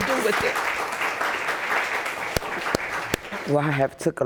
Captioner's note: audience applauds